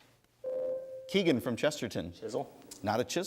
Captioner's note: ding